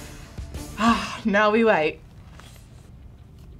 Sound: sighs

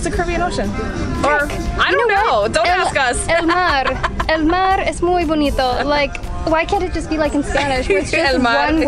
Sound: laughter

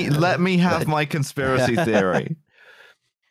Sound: laughs

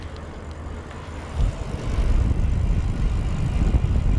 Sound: chains whirring

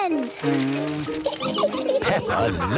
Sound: blows

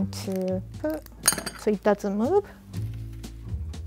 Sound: metal clinking; soft music

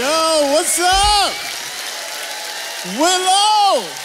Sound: audience applauds

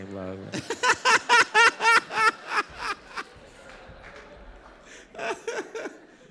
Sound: laughter

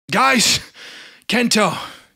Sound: deep Breath

